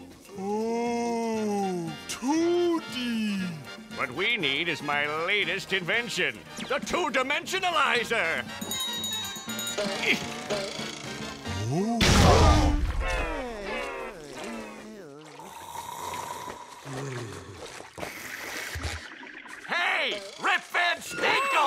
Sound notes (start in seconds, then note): 8.6 ringing; 15.3 snoring